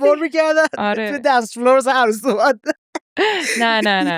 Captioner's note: laughs